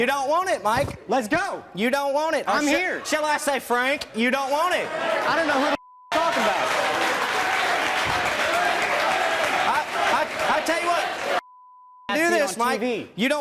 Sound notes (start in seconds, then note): 6.1 audience clapping; 6.5 audience murmurs